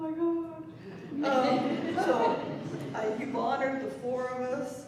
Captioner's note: laughter